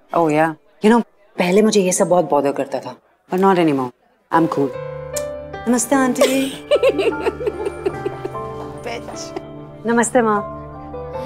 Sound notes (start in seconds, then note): 6.2 all giggling